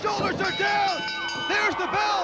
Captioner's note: bell ringing